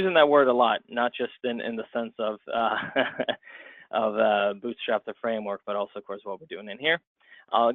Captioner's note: chuckle